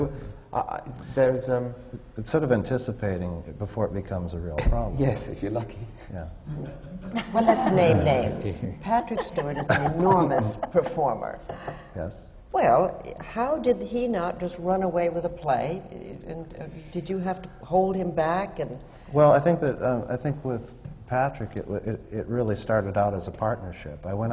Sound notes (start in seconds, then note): 6.4 laughs; 9.0 laughter